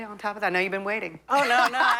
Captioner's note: laughter